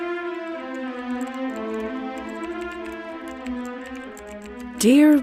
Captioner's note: typing sounds